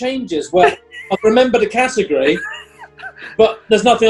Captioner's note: giggling